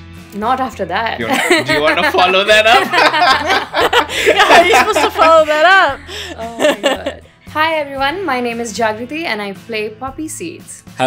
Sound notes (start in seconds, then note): 1.3 laughter; 1.3 laughs